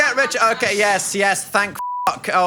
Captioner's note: beeps